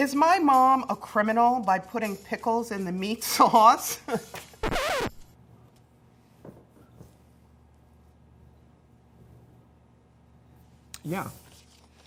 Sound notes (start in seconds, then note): 3.5 laughing; 4.6 record scratch